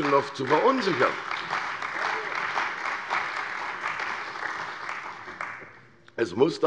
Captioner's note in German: Beifall bei der CDU und dem BÜNDNIS 90/DIE GRÜNEN